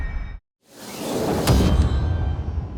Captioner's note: whoosh